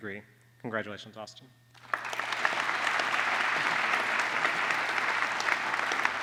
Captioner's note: applause